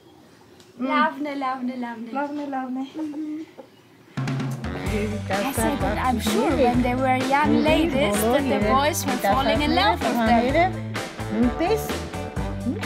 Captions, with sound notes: Nice, nice … [in Armenian] I said that I'm sure when they were young ladies that the boys were falling in love with them!